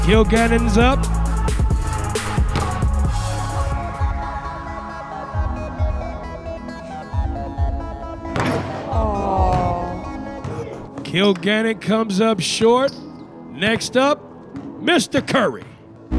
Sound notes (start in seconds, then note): 2.5 ball bouncing; 8.3 ball thudding